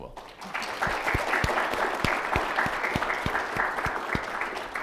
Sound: audience applauds

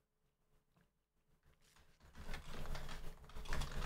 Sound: typing

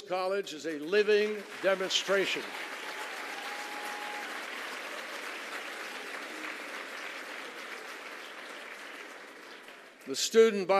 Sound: applause

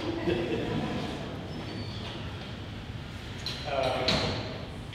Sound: audience laughing

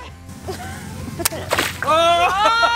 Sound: balloon explodes

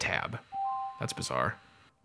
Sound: ping

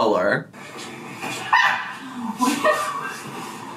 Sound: both laughing

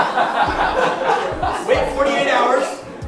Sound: laughing

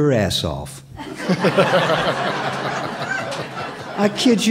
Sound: laughter

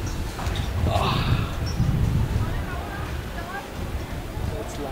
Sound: man sighs in relief

